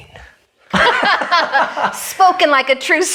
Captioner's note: laughs